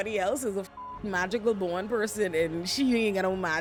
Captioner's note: beep